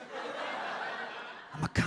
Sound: audience laughs

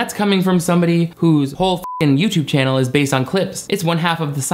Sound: beep

